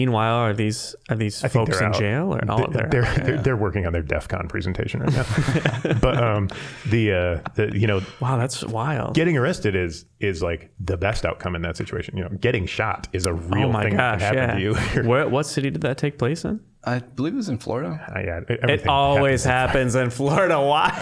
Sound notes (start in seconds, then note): 5.0 all laughing; 18.6 laughing